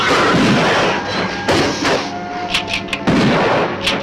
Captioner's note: gun firing